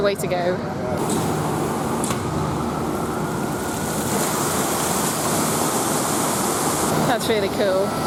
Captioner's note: splashing water